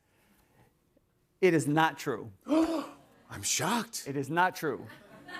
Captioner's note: gasps